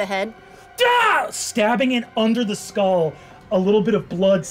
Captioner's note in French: crie